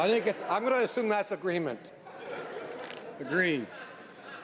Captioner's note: laughter